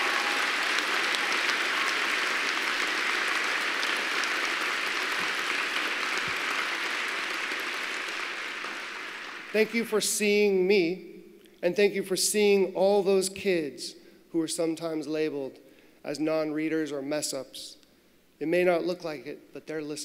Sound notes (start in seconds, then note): 5.1 applause